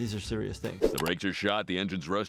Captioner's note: clicking